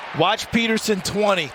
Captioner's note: cheers and applause